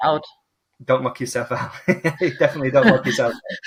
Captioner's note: laughs